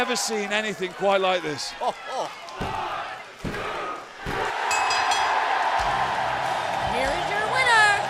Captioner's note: bell ringing